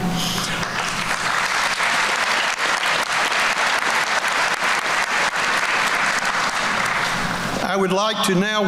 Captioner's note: applause